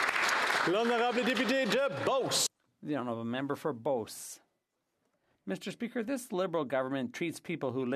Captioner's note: applause